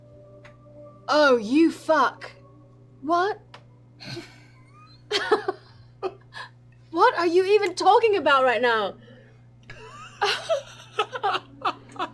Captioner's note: laughing